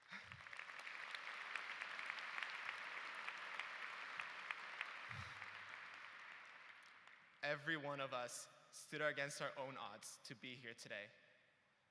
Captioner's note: applause